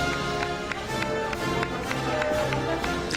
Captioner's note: applause